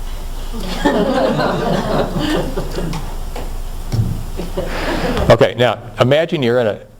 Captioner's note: tap.....tap